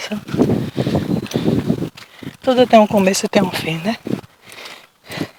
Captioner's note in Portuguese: vento soprando